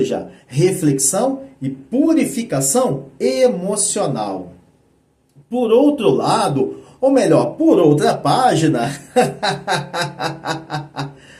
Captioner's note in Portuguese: risadas